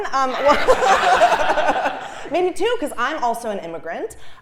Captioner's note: laugh